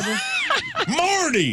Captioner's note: laughing